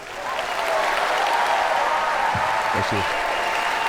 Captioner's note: applause